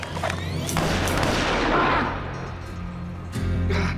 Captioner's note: GUNSHOT FIRED,</i> <i> MR. GATES GROANS